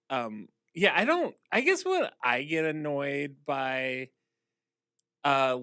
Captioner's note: none